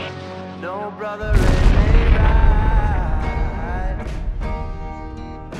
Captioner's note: napalm explodes